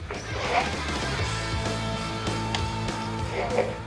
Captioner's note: motor Sound